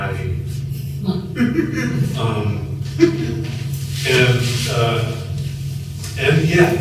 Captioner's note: laughter